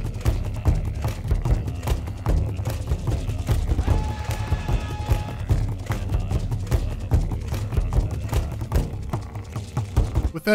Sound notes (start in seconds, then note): 0.0 intense tribal music; 3.8 scream; 5.3 intense tribal music